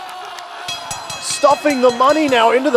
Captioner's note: bell ringing